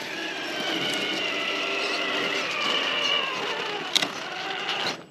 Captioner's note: vroom!